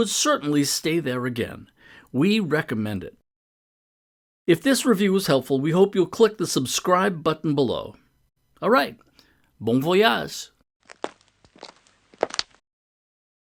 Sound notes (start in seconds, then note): 10.8 footsteps are heard